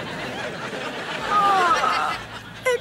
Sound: groaning

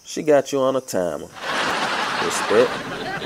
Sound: laughs

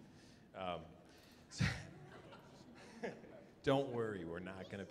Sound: chuckling

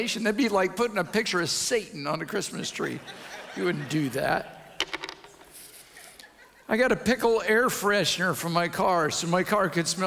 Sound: audience laughs

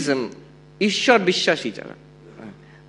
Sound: non-english

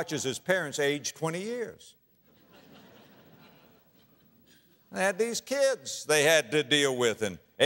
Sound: audience laughter

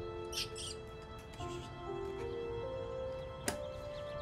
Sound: whistling; chittering

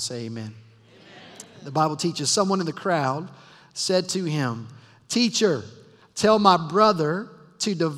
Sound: crowd responds

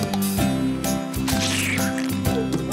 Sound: smash

